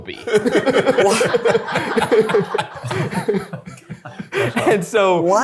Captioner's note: people laughing